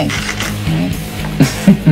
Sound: Steve chuckles

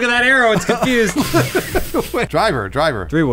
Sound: laughing

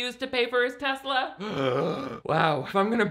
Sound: groans

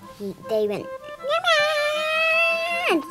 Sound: high pitched yell

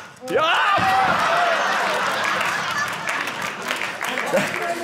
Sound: audience cheering

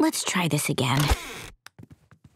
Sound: door creaking

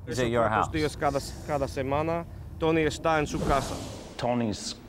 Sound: non-english speech

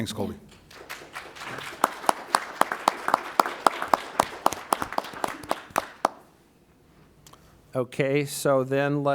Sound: applause

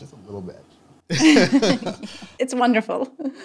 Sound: both laughing

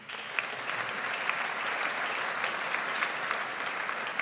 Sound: audience applauds

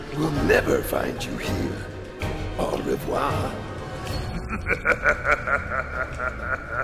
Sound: laugh

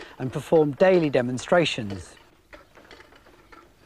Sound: none

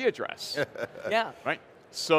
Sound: laughing

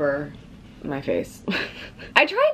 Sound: laughing

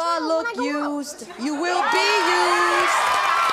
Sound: cheering

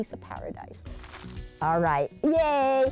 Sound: bag crinkling

